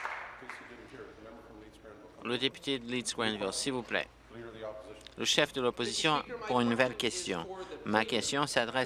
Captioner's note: applause